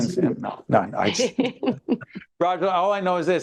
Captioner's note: laughing